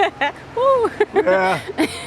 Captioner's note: laughs